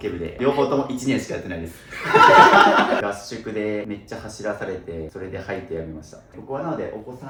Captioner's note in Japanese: 笑い